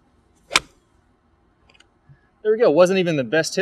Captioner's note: club smacks ball